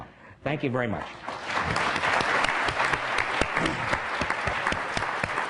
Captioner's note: applause